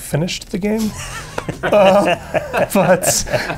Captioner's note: laughter